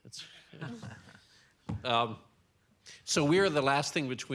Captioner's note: audience laughs